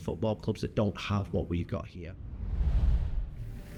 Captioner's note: scene whooshing